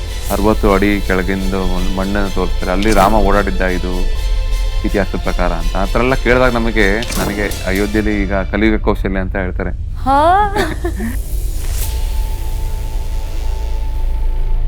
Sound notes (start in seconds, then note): 10.0 speaker exclaims; 11.5 intro Music Fades